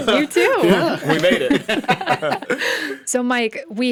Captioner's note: all laugh